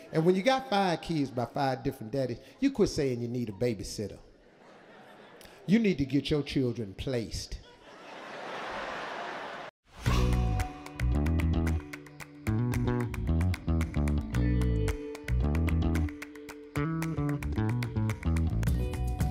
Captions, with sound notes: And when you got five kids by five different daddies, you quit saying you need a babysitter. You need to get your children placed. (audience laughing) (hip upbeat music)